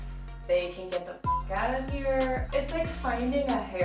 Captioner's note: beep